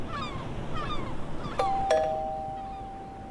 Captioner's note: doorbell rings